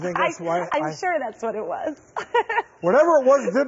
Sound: laughs

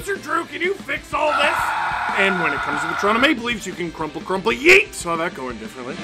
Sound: screaming

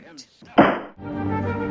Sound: gavel bangs

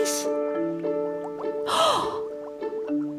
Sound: gasps

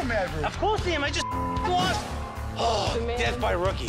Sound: beep

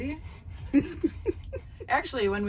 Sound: laughing

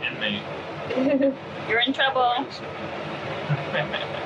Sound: laughing

